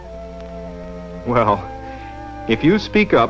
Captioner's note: chuckles